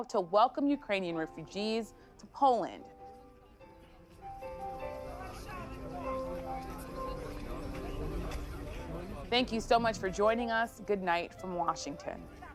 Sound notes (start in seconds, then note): 3.2 people chattering; 3.7 soft piano music